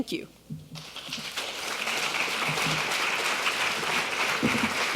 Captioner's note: audience applauding